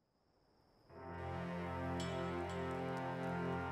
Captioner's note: crackling fire